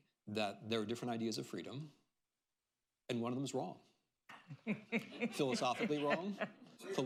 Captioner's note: laughter